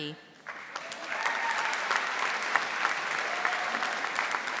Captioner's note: audience applauding